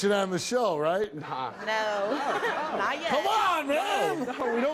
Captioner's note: laughs